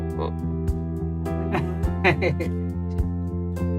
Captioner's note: laughter